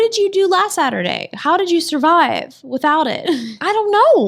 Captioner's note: laughs